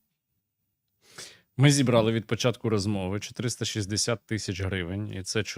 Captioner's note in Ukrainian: сопіння